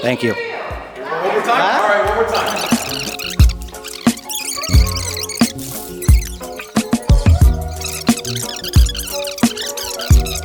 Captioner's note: crowd Chattering